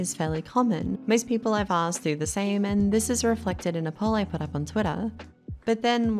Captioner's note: but said in a very aussie accent